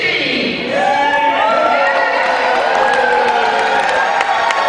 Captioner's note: cheering